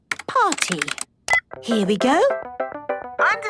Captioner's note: beep